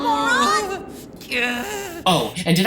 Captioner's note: Kazuto groaning